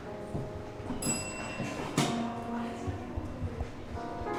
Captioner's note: service bell dinging